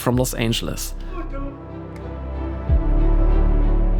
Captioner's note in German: in einer Fremdsprache